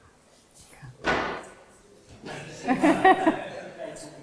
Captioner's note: laughter